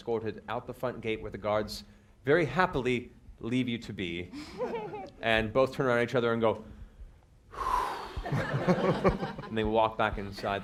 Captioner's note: heavy sigh